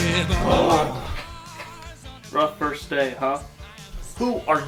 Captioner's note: groaning